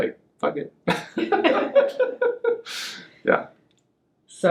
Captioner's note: laughs